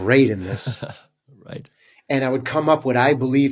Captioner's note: laughs